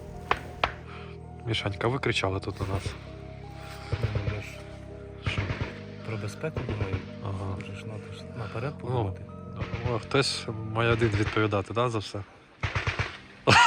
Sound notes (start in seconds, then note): 13.4 laughter